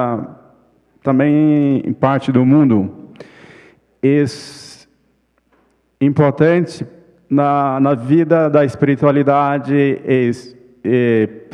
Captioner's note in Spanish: ponente habla en portugués